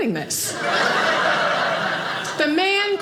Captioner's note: audience laughing